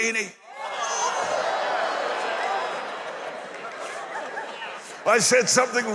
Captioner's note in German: Applaus